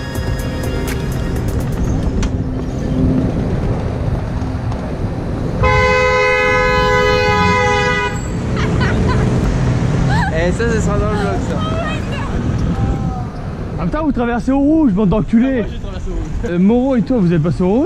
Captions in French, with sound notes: *Klaxon* Hé, ça, ça sera dans le VLOG ! en même temps vous traversez au rouge, bande d'enculés ! Moreaux et toi vous êtes passés au rouge